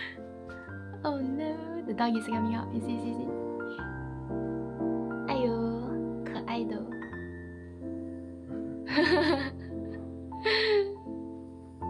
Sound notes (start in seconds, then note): 6.3 Mandarin